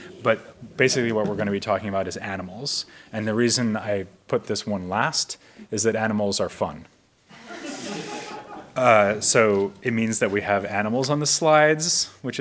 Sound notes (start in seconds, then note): 7.3 audience laughs